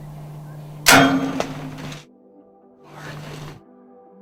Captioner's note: bow firing